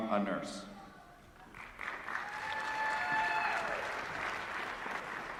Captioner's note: applause